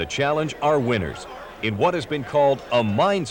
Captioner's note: indistinct chatting